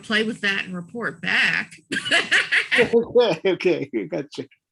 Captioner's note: laughs